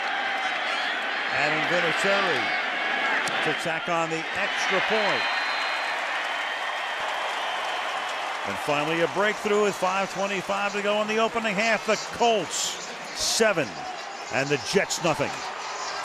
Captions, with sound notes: Adam Vinatieri to tack on the extra point. [cheering] And finally, a breakthrough with 5:25 to go in the opening half. The Colts 7, and the Jets 0.